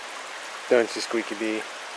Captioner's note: rushing water